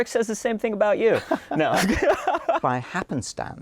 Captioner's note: laughter